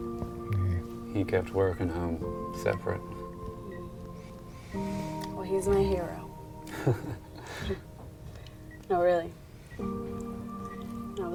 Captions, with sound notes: - He kept work and home separate. - Well he's my hero. (Josh chuckles) No really.